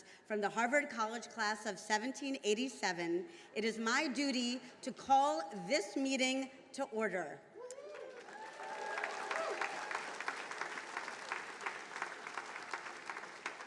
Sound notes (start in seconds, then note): 7.7 attendees cheering and applauding; 7.8 attendees applauding